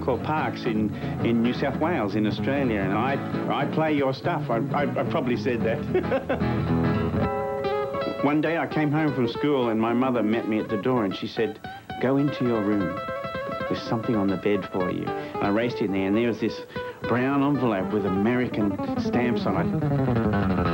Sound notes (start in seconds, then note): 5.7 laughter